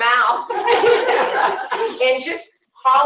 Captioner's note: laughter